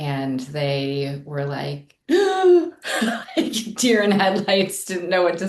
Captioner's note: gasps